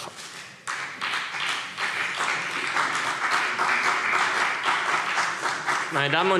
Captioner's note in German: Beifall CDU und BÜNDNIS 90/DIE GRÜNEN